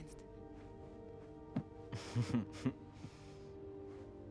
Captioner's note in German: gluckst